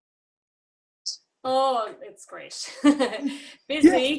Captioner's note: laughs